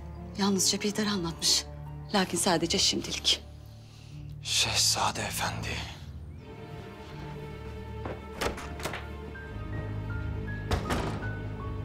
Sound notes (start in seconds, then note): 7.9 sound of door opening; 10.5 the door closing sound